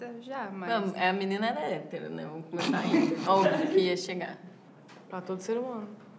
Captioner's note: laughs